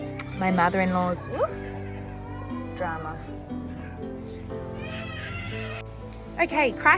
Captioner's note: screaming in the background